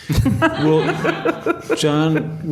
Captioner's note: audience laughs